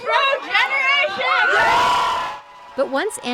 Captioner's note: cheering